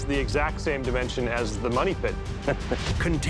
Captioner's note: chuckles